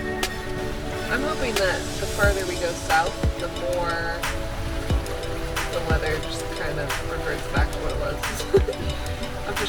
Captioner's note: laughs